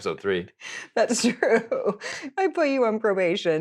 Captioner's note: laughing